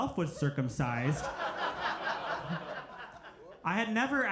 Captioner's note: crowd laughs